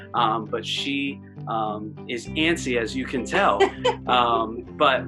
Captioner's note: laughter